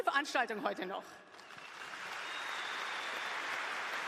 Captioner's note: applause